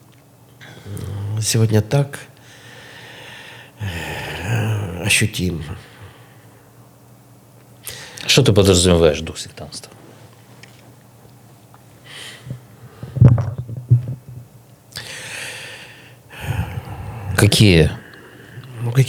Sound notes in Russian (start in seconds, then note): 2.5 тяжело вздыхает; 3.8 вздыхает; 16.3 тяжело вздыхает; 16.3 вздыхает